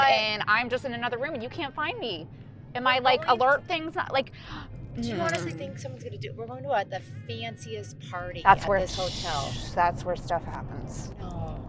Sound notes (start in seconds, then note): 4.9 sighs